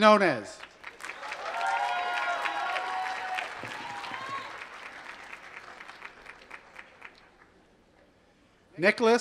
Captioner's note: applause